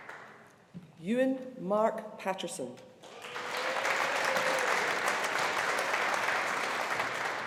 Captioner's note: audience applauding